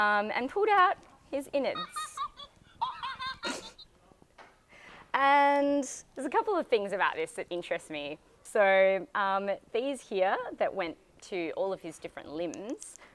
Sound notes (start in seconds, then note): 1.7 Elmo laughing